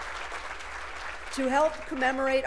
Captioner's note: applause